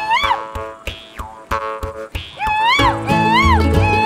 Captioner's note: yelping